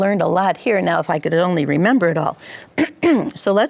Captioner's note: clears throat